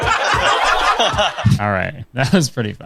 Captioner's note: crowd laughs